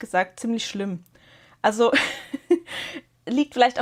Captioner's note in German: gelächter